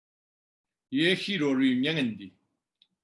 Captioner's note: tibetan